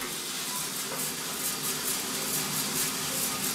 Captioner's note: hissing, clicking